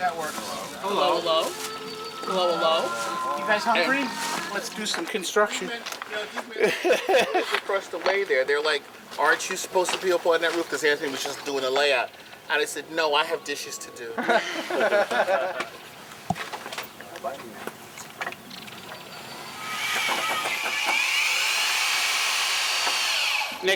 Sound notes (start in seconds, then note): 6.5 laughs; 14.1 laughter; 19.1 power saw noise